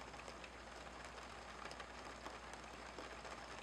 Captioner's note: sound of rain pouring